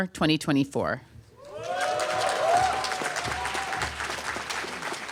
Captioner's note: applause